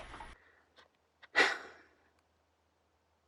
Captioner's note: quick breath